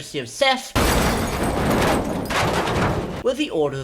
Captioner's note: explosion